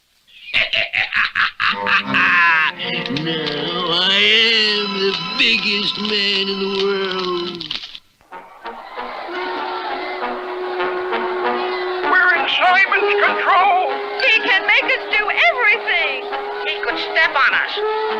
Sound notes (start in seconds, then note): 0.4 Simon Bar Sinister Laughs; 8.2 crowd Roars